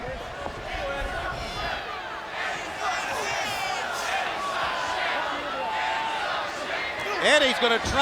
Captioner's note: crowd cheering